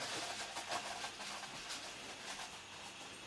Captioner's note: rustling